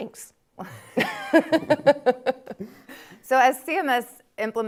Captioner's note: all laughing